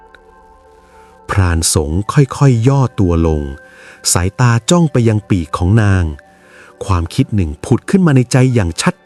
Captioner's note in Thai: เสียงสูดหายใจ